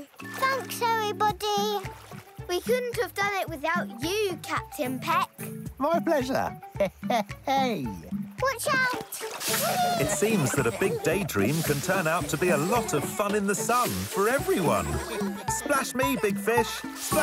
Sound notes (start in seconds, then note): 6.7 laughs; 9.6 all laughing